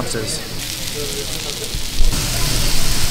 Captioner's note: meat sizzling